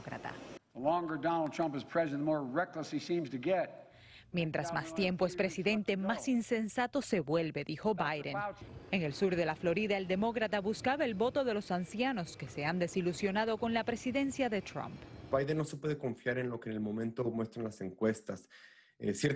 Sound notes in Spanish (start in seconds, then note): 6.5 habla en ingés